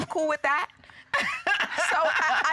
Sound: laughing

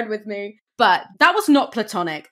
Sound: none

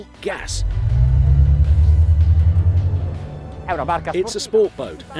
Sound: engines revving

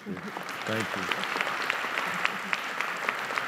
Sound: applause

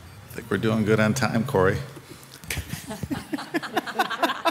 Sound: all laughing; chuckles

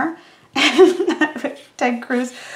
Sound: laughing

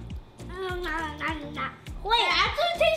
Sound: loud chewing

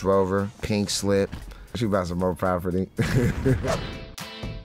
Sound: laughs

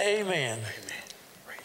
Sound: whispering

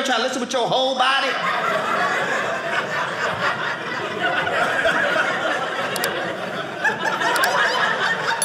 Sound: audience laughing

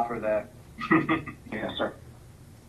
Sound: laughing

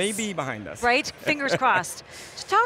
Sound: chuckles

